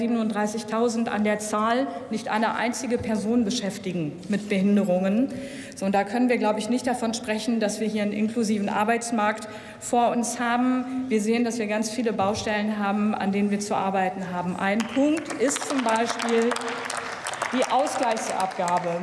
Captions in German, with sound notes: ungefähr 37.000 an der Zahl - nicht eine einzige Person beschäftigen mit Behinderungen. Und da können wir, glaube ich, nicht davon sprechen, dass wir hier einen inklusiven Arbeitsmarkt vor uns haben. Wir sehen, dass wir ganz viele Baustellen haben, an denen wir zu arbeiten haben. *Applaus* Ein Punkt ist zum Beispiel die Ausgleichsabgabe,